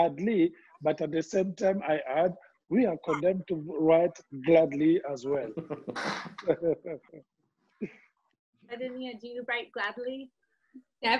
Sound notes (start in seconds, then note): 5.5 laughs